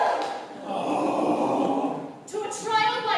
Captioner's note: LADIES cheer; ARAC, GURON, SCYNTHIUS groan